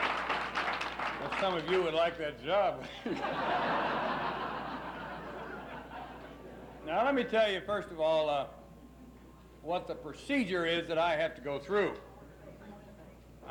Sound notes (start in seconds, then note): 0.0 applauses; 5.6 laughs